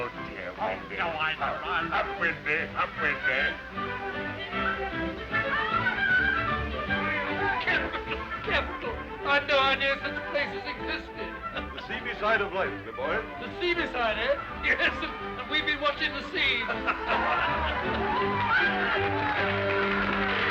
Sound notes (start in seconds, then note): 4.1 people chattering; 4.1 upbeat music; 10.2 laughs; 16.4 men laughing; 17.0 upbeat music